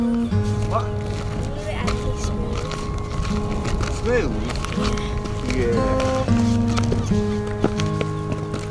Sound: distant talking

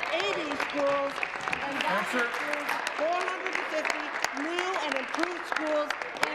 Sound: applause

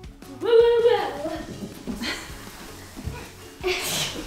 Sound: laughing

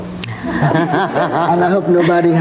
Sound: laughing

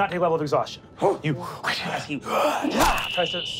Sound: gasping; wooshing; gasping

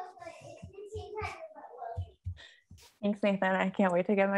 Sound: child speaking in the background

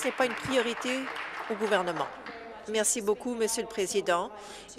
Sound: applause

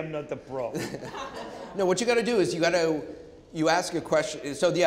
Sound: chuckling

